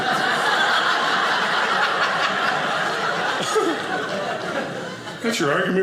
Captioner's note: audience laughing